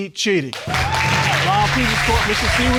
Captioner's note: audience cheering and applauding